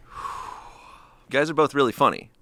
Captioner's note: exhales